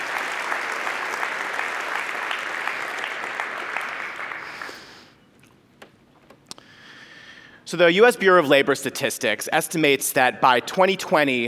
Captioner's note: applause